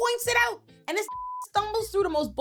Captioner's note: beep